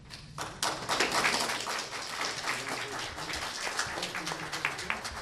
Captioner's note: everyone applauding